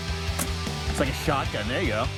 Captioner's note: thumping